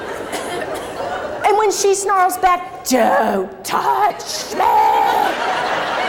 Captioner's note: crowd laughs